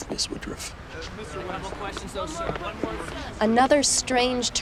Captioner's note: reporters clamoring